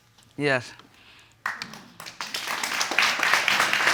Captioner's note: audience claps